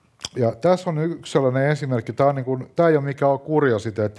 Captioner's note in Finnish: none